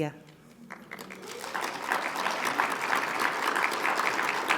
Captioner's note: audience applauding